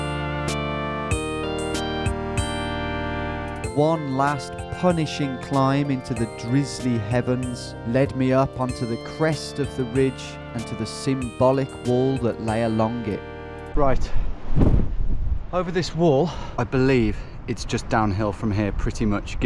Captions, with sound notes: - [Voiceover] One last punishing climb up the heather into the drizzly heavens, led me up to the crest of this ridge, - Right over this wall, I believe, it's just downhill from here pretty much,